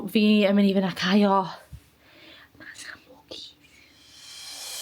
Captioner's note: whispering